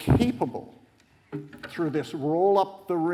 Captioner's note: none